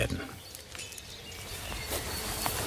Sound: humming, birdsong

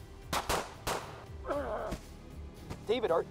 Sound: grunts

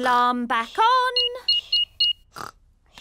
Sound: beeping

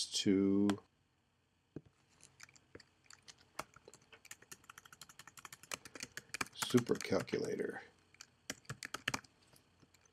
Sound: typing

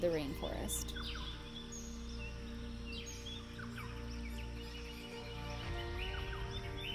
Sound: birds chirping; peaceful music

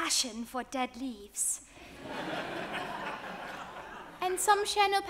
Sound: audience laughs

